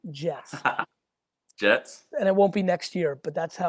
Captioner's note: laughs